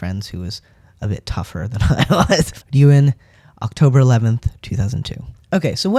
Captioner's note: laugh